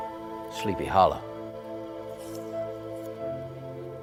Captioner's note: crunches